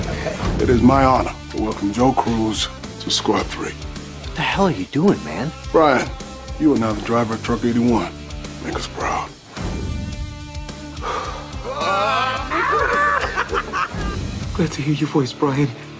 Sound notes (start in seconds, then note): 10.9 exhales deeply; 12.2 laughter